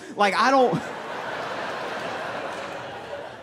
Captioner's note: laughter